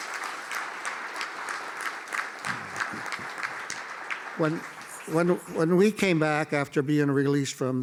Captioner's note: applause